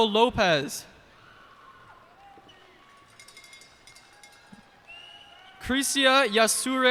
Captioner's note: cheers and applause